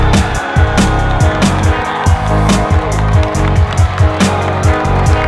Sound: cheering and clapping

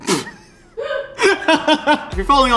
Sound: laughs

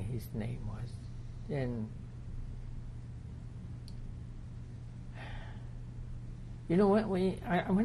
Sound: sighs

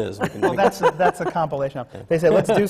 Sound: laughs, holds up a cd

